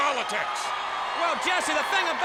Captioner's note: audience cheers